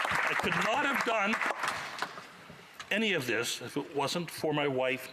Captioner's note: applause